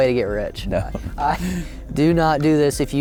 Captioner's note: laughs